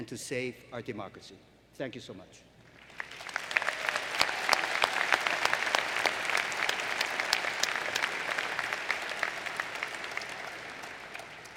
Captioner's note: applause